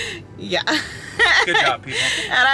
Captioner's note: laughs